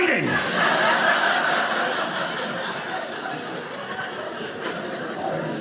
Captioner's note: audience laughing